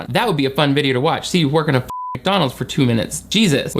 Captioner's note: beep